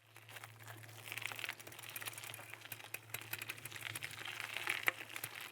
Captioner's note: bike wheel clicking